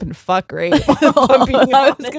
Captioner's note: both laughing